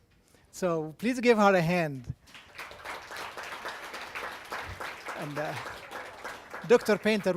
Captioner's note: audience applause